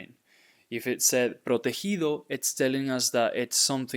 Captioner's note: speaking in Spanish